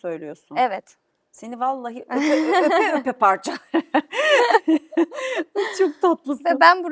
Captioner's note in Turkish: kahkaha